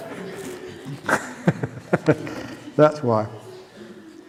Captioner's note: laughter